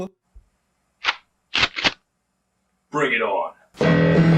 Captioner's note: shotgun noise